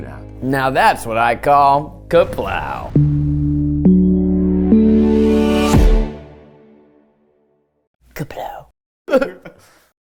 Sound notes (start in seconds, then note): 2.1 upbeat music; 8.6 all laughing